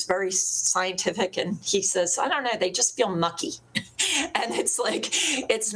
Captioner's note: laughs